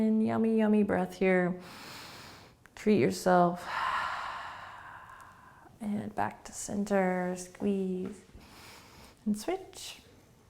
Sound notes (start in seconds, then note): 1.8 inhaling; 3.6 exhaling